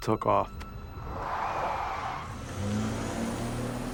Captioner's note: tires screeching